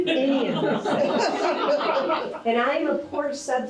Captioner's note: audience laughs